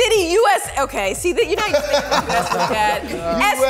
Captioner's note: everyone laughs